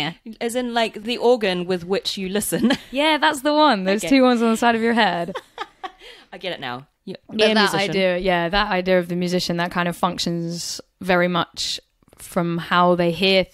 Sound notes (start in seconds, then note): 7.4 laughs